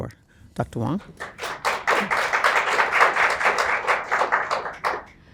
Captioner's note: attendees applauds